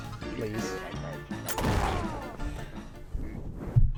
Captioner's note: gunshot sound